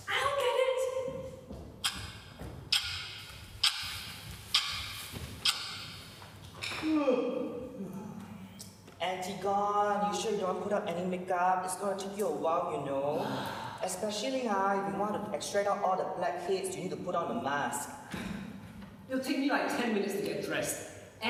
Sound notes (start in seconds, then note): 2.7 sound of a ticking clock; 7.6 ANTIGONE yawns; 13.1 ANTIGONE sighs heavily